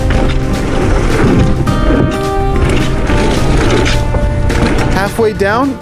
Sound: tires rumbling on the ground

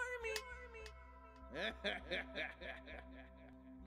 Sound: laughs

